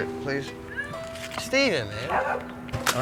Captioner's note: dog barking